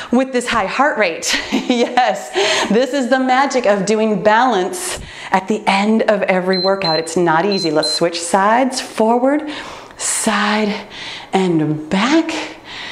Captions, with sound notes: with this high heart rate, (laughs) yes, this is the magic of doing balance at the end of every workout. (timer beeps) It's not easy. Let's switch sides, forward, side, and back.